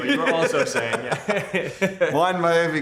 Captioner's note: both laughing